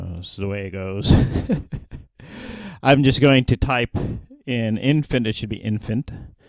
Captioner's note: laugh